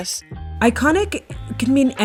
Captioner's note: soundbite of archived npr broadcast